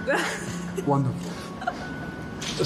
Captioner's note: Meghan laughing